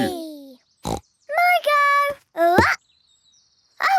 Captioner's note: snorts